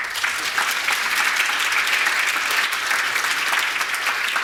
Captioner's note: audience applauding